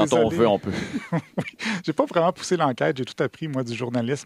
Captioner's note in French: rire